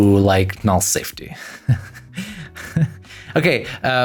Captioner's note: laughs